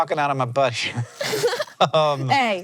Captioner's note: BOTH laugh